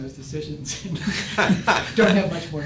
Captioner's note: laughing